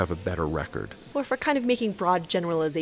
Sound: voiceover

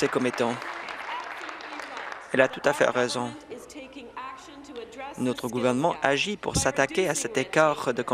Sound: applause

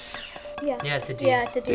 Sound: hollow tapping

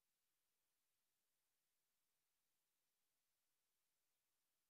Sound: none

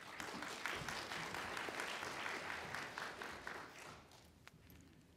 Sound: applauding

